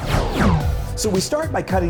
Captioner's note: air swooshing